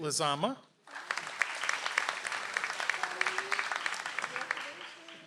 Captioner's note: audience applauds